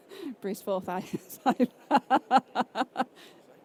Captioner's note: laughs